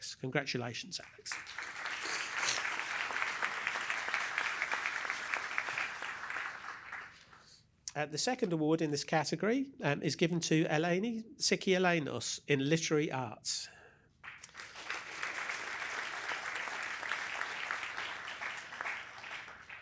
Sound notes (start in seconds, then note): 1.0 applause; 14.2 applause